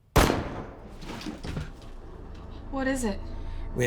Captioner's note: gun fires